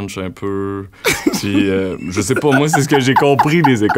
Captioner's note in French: éclat de rire